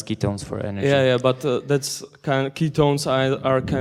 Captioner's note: voiceover